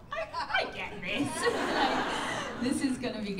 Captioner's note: laughter